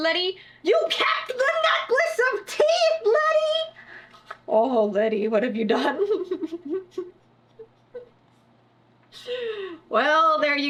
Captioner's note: laughs